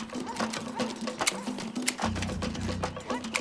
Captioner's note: dog barks in distance